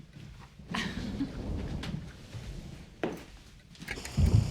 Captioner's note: chuckling